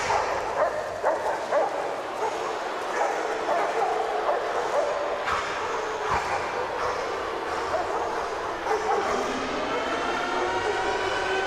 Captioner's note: dogs barking